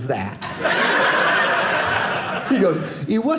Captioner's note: audience laughing